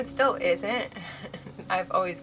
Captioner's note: laughs